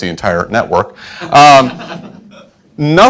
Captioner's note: class laughing